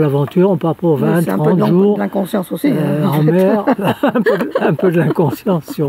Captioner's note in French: rires